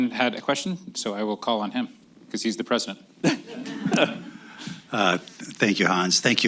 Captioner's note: laughter